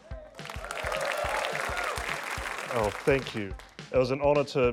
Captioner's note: cheering, applause